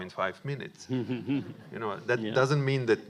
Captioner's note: audience laughing